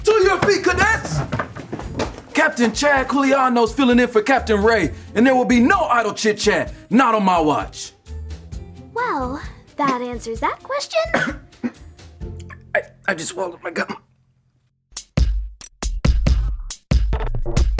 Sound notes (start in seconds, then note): 11.1 coughs; 14.9 upbeat music